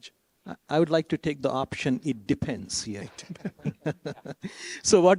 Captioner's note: laughs